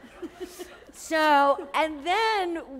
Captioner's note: laughter